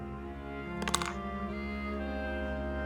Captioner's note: miniature clattering